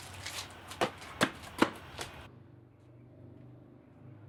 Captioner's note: footsteps